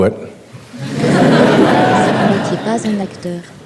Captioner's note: laughing